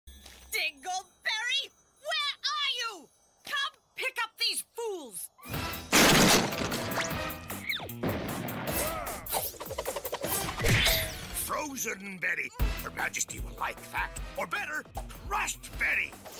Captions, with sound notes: Dingleberry, where are you? Come pick up these fools! (GRUNTS) Frozen Betty! Your Majesty will like that, or better, Crushed Betty!